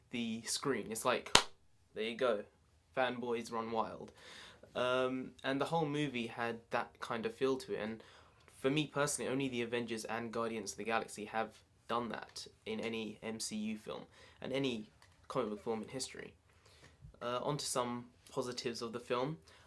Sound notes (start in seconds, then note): 1.2 clap